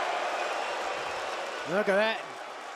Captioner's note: crowd cheering